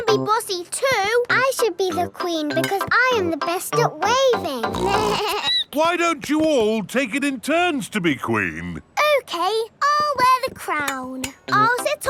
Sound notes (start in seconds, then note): 4.6 snorts; 4.7 bleats